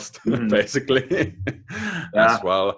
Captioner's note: laughs